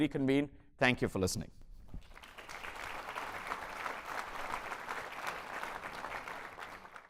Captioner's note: applause